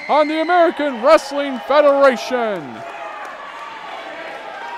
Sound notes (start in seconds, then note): 3.0 crowd cheering